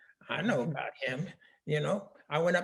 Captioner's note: laughing